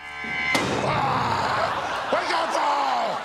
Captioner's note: crash!